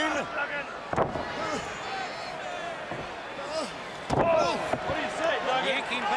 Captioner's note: crowd chatter